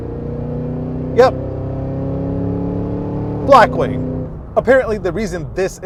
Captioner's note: engine revving